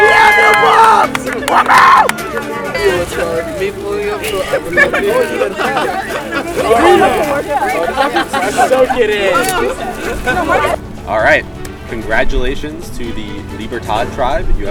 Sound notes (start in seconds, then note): 2.9 chatter